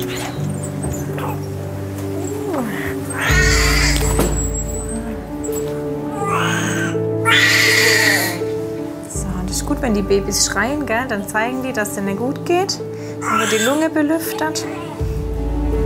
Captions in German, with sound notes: (flüstert:) Hallo. (Baby gluckst.) (Das Baby schreit.) Und es ist gut, wenn die Babys schreien, dann zeigen die, dass es ihnen gutgeht. Dann wird die Lunge belüftet.